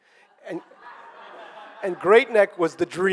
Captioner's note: audience laughing